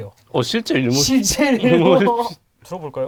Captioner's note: laugh